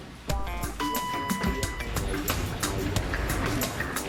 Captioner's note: elevator bell dings